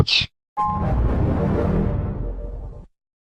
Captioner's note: 3D Shadow Windows XP Shutdown Sound